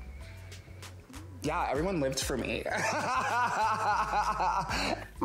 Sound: laughs

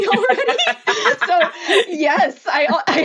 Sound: laughing

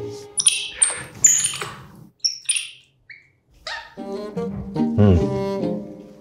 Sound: loud continuous monkey clicks and squeaks

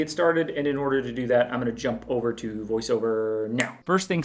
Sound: snaps finger

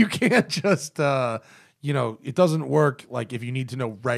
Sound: laughter

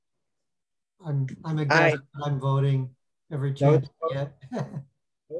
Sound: laughs

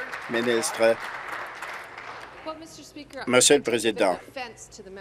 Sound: applause

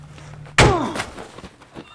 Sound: crack!

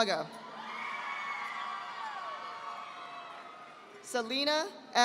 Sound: audience applauding

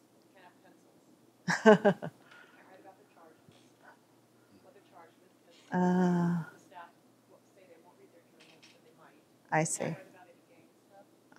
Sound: speaking off mic

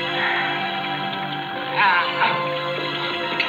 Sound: moaning

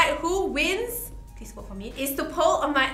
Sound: whispers

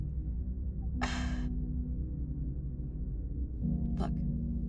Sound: Rennie sighs

